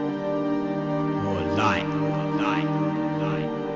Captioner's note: voiceover